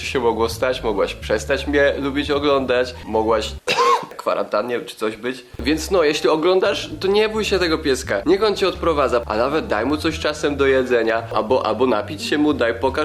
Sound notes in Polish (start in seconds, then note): 3.6 ekkhmm